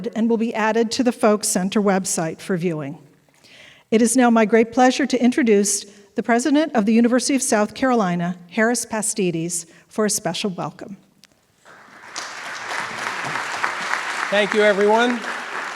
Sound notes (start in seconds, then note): 11.6 audience applauding